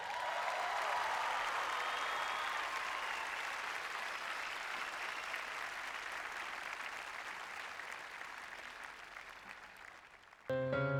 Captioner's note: applause